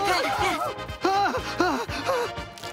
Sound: panting; shrieking

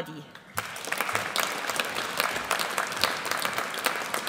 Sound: audience applauds

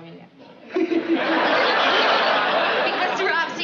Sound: laughing

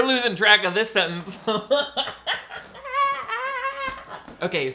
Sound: laughs

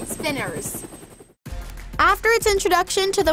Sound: helicopter whirling

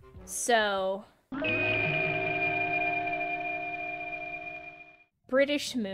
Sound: really cool wooshie sound effect

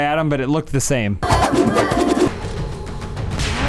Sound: awesome flip sounds

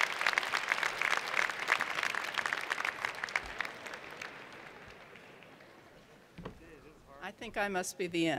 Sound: cheers and Applause

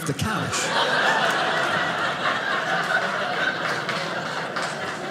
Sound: audience laughing

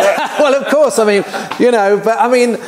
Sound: chuckles

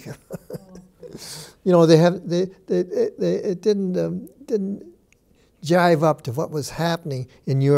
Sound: chuckles

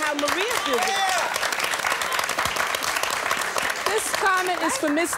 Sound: audience clapping and cheering

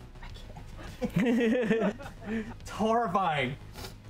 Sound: both laugh

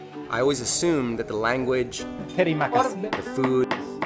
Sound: speaks in foreign language

